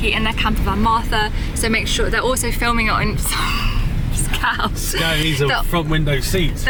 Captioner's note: laughing